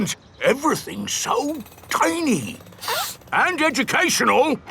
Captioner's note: sniffs